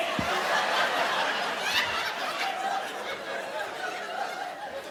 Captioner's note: audience laughing